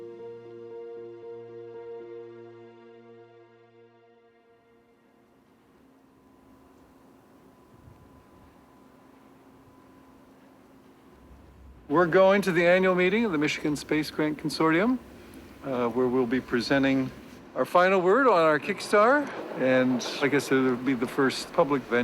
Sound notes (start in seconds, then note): 0.0 melancholy music; 5.9 snow rustling